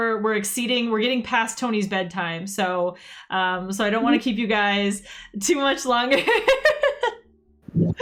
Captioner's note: laughs